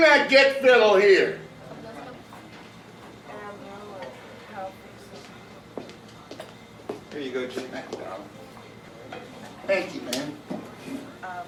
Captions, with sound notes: - Bring that get fiddle here! (people chattering) - Here you go Jake, man. - Thank you, darlin'. Thank you, man.